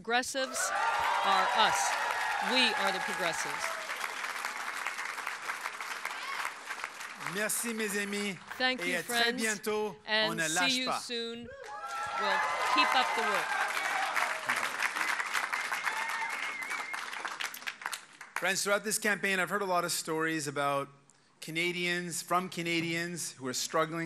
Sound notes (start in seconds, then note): 7.7 cheers and applause